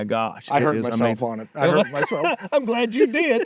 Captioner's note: laughing